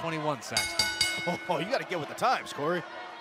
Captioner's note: bell